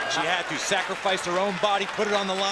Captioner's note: crowd chatter